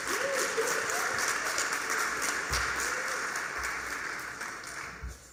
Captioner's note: applause